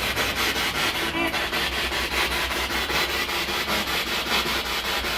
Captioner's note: radio noise from the spirit box